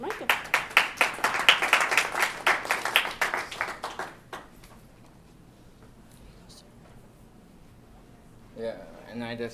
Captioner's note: applause